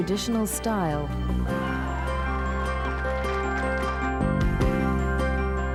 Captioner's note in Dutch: publiek applaudisseert